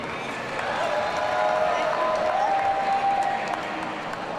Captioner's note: audience cheering